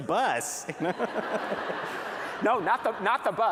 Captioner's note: laughter